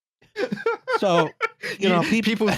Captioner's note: laughter